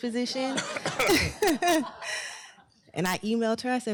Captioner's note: laughter